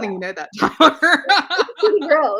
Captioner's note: laughs